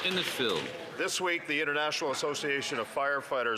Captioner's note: some Applause